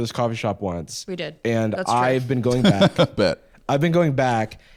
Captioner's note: laughs